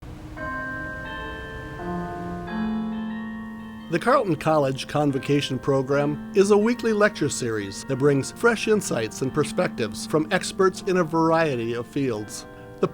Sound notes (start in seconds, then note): 0.0 bells ringing